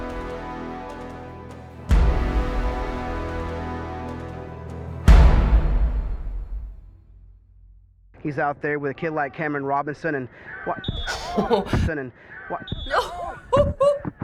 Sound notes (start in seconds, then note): 1.7 dramatic chord; 4.9 dramatic chord; 10.9 whistle blows; 11.0 laughs